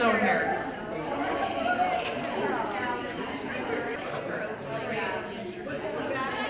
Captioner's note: audience chattering